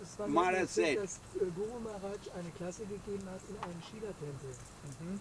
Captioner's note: German